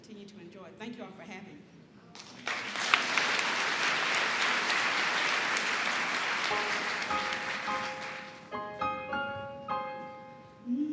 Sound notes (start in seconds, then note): 2.1 applause; 6.1 piano music